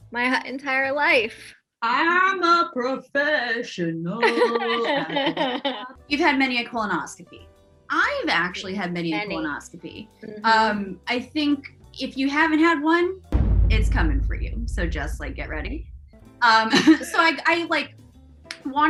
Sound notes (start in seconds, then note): 4.2 laughter